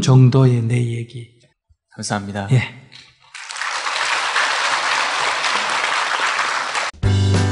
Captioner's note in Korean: 청중 박수